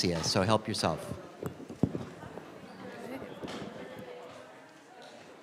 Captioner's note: class chattering